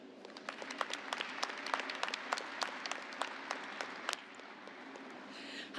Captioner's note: applause